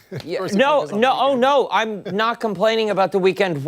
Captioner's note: laughter